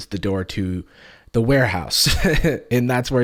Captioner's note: laughs